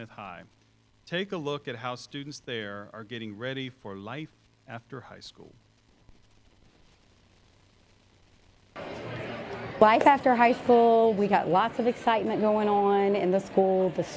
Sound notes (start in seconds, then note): 8.7 crowd Noise